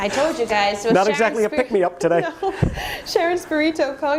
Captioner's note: laughter